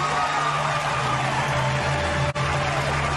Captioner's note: vigorous applause, cheers